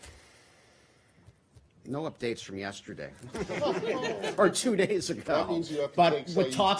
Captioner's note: laughter